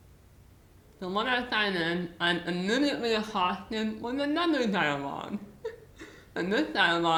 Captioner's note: laughs